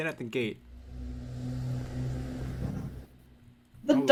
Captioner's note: spooky teleportation sounds